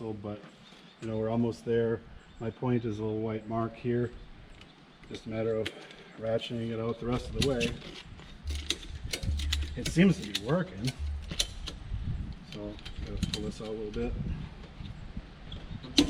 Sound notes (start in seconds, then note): 8.4 strap clicking